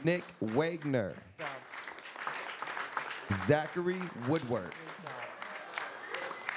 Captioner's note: applause